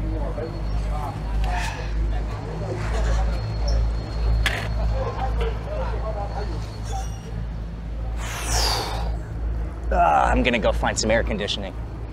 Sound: sighs

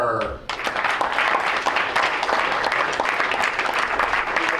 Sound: crowd applauds

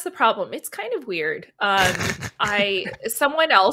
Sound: laughs

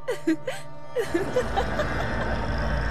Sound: evil laugh

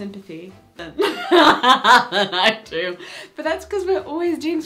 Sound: she laughs

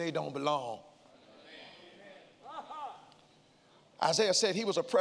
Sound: congregants call out

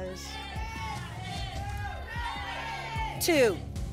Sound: audience shouting numbers

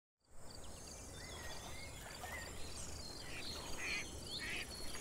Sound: birds chirping; ducks quacking

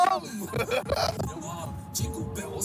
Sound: laughing

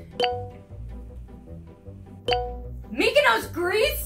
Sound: dinging

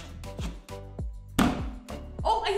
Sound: wood thuds

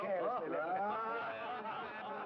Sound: laughing

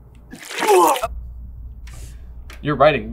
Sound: Ron vomits

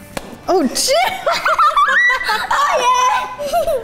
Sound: laughs

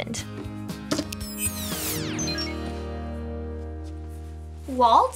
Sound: graphics squeal

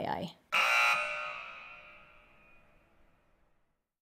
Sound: alarm beeping

